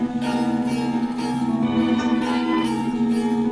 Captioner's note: dwarves chattering